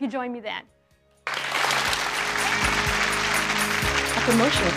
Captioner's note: audience applauds